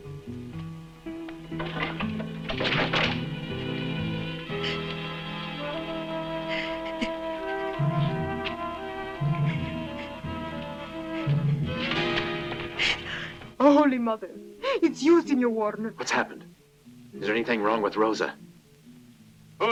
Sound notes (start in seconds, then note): 6.3 children crying